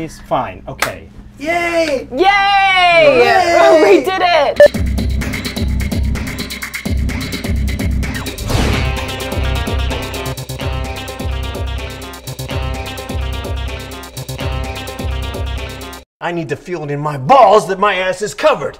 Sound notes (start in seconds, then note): 5.1 drums; 8.1 swoosh noise